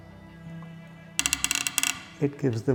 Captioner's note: squeak